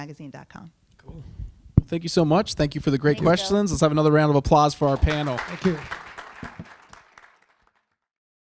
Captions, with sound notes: rainemagazine.com. - Thank you so much. Thank you for the great questions. Let's have another round of applause for our panel. (audience applauding)